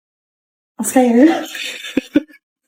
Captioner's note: laughs